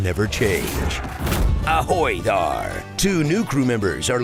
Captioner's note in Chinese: 海盜口音